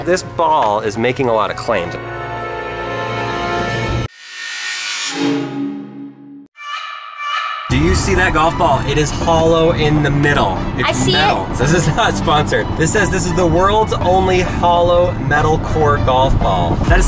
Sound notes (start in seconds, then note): 4.1 logo chimes; 7.7 hip-hop music; 8.4 traffic in background